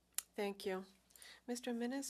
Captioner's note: speaking French